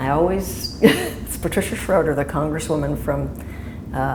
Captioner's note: chuckle